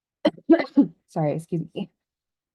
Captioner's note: coughs